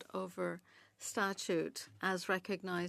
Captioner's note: speaking French